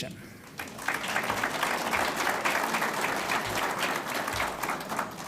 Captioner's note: audience applauds